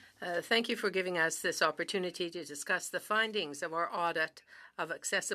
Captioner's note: speaking French